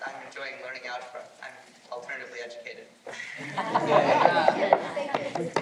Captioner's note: laughter